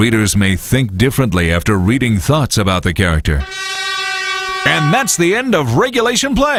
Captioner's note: horn